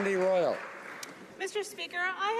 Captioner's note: applause